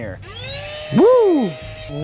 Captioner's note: vacuum sound